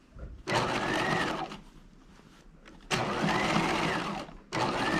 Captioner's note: sewing machine whirring